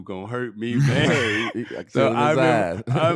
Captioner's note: laughing